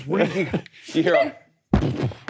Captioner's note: imitates package thudding